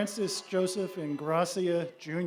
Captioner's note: applause